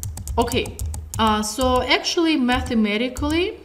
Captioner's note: typing sounds